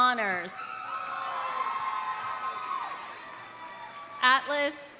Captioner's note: audience cheering; audience applauding